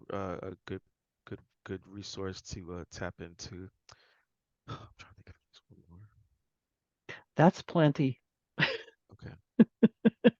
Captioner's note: whisper